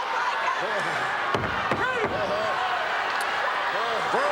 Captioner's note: crowd murmuring